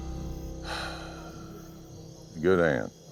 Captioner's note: sigh